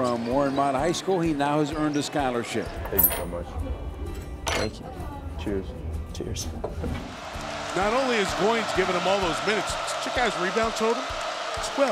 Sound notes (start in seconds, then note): 7.0 crowd cheering